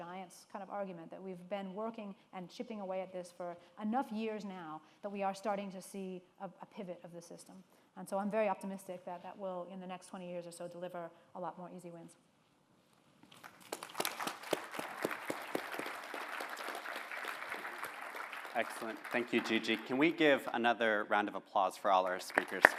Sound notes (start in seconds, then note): 13.3 applause